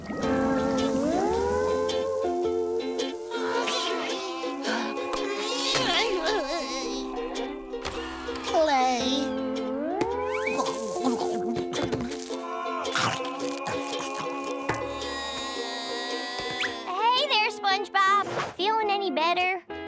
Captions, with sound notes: [groaning] Play. [SpongeBob groaning] Hey there, SpongeBob. Feeling any better?